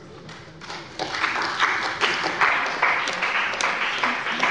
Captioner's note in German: Beifall bei der CDU und dem BÜNDNIS 90/DIE GRÜNEN